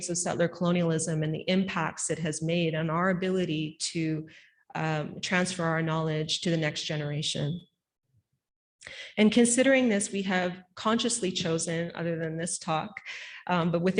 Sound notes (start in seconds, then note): none